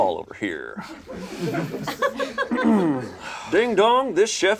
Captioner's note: group laughs